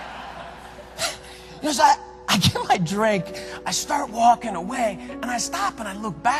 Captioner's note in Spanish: risas; riendo